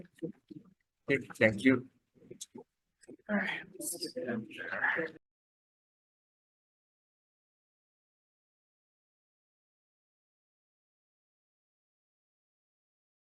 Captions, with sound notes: - Okay, Chair. - Okay. Thank you. - All right. (attendees chattering)